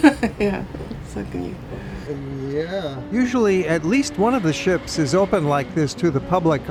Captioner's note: laughs